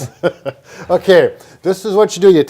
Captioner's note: both chuckling